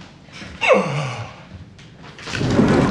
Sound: gasping

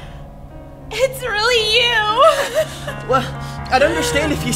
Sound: laughs

